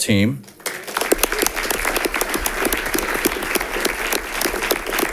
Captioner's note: audience applauding